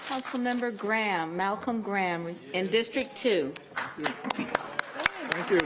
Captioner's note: applause